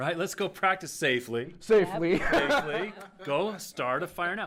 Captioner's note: laughter